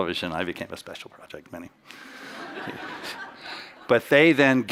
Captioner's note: chuckles